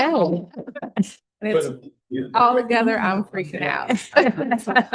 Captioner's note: laughter